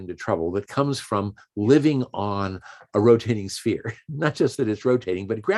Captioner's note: chuckles